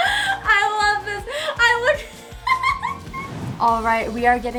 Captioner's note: giggles